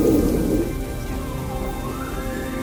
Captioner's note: caller bugling